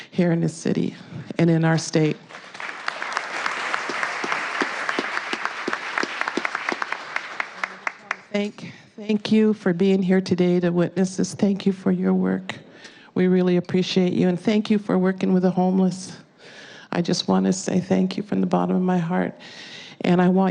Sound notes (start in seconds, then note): 8.6 applause